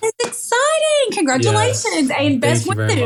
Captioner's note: laugh